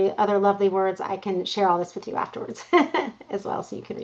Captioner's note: laughs